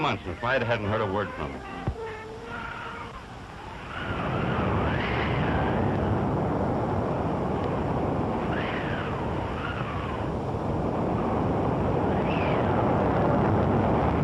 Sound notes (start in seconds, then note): 4.0 wind howling